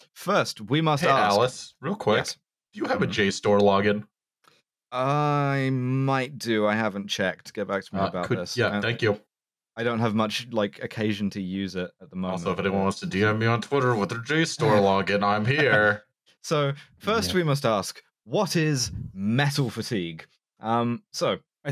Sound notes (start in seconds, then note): 12.5 through clenched teeth, a la ventriloquists